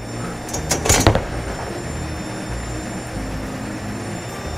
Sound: bowling ball thuds

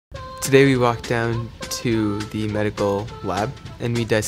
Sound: voiceover

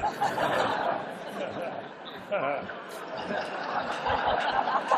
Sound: laughter

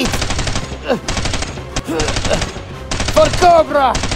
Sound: rapid Gun Shots Sounds

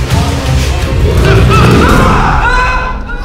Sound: creature growls

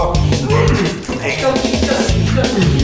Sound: gagging and groaning

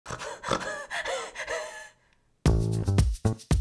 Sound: snorts; upbeat music

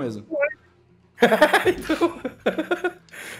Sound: he laughs

